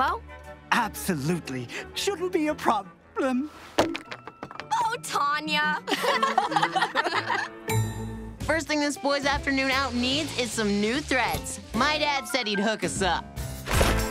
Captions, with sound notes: Absolutely, shouldn't be a problem. [thunking] Oh Tanya. [all laughing] First thing this boy's afternoon out needs is some new threads. My dad said he'd hook us up.